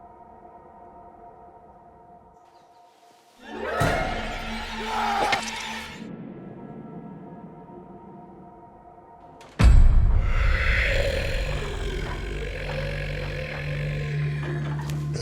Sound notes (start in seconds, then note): 2.9 birds chirping; 4.0 dramatic music; 5.1 man screams; 9.8 dramatic music; 10.2 monster grumbling